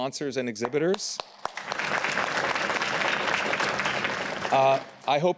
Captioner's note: applause